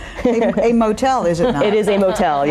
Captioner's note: laughing